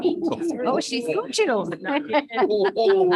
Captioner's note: laughs